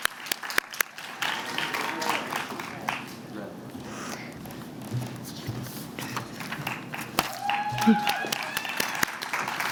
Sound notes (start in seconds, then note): 1.8 applause